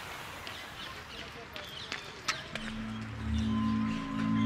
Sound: footsteps thudding; eerie music

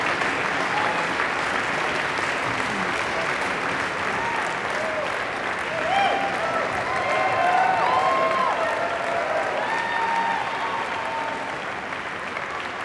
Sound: applause

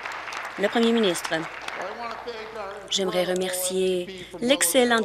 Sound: applause

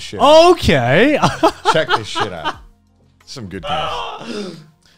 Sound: laughs

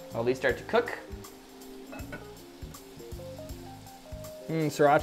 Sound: meat simmering

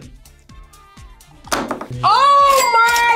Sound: marker clatters

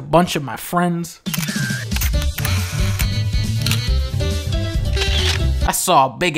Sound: camera clicks

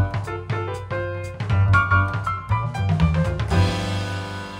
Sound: none

